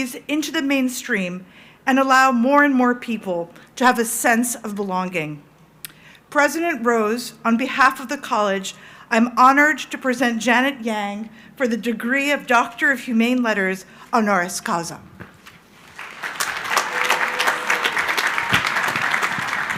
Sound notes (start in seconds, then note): 15.8 crowd applauding